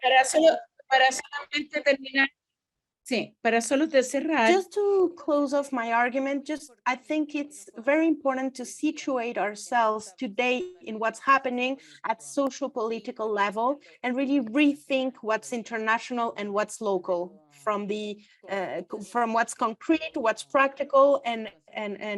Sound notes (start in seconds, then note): 2.7 speaks foreign language